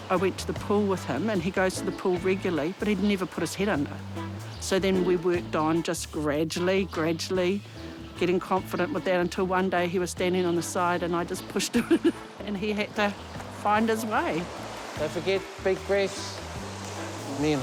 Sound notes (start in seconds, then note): 11.6 laughs